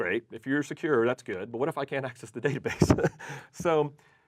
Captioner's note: laughs